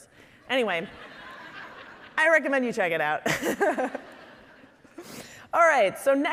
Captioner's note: laughing